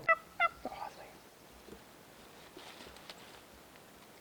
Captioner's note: turkey calling